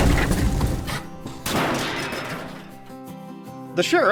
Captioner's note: kaboom; crash